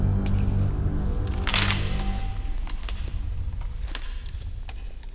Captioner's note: branch snapping